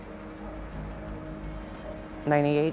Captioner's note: beeps